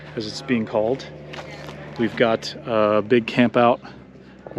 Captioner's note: none